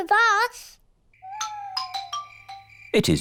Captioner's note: owls hoot